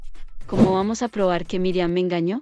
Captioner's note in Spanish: FX - Whoosh - 03